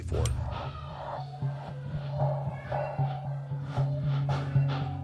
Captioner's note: child chattering